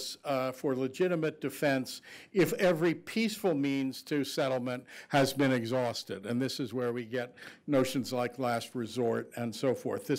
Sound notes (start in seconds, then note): none